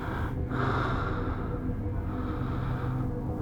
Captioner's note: man breathing heavily